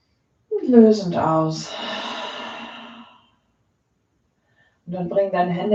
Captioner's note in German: seufzt